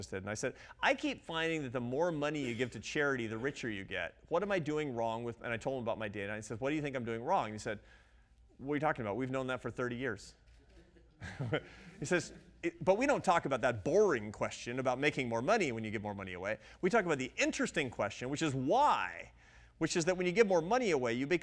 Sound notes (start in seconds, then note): 11.2 audience laughs